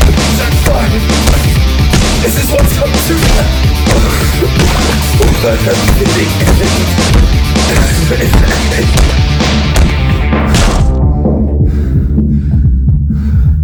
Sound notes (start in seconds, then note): 0.9 coughs; 3.2 louder coughs; 7.7 coughing laugh, music starts to muffle